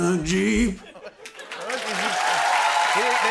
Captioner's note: cheers and applause